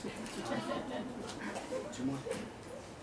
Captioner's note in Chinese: 宾客在笑